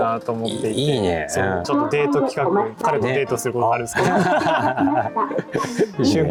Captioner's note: laughing